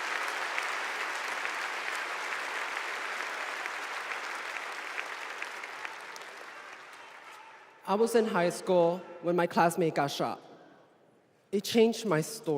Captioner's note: applause